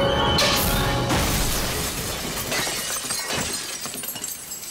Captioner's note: ice shattering